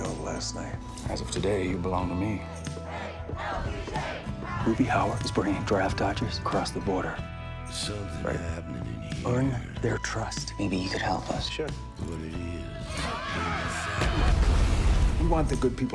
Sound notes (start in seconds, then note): 13.6 shouting; 14.0 explosion; 14.0 bang